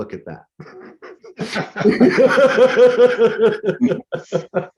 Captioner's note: laughing